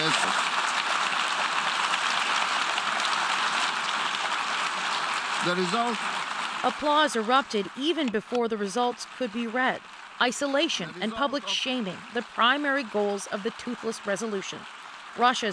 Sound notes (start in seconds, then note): 7.8 applause